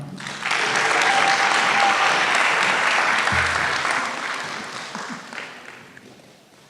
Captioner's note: applause